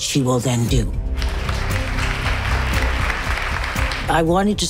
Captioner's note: applause